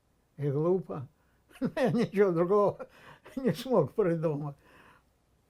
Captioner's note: laughing